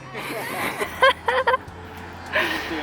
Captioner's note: laughs